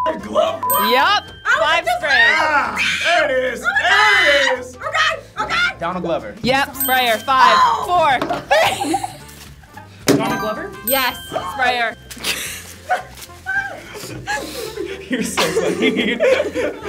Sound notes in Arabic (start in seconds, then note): 0.2 صافرة; 2.2 يصرخ; 13.6 كلاهما يضحك